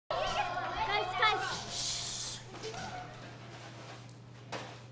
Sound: sounds of kids playing

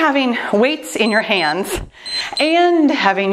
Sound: timer beeps

